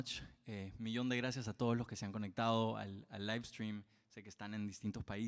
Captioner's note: speaks Spanish